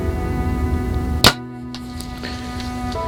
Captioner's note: soft music; sound of bowshot; soft music